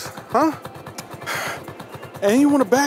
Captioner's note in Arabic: قطار صراخ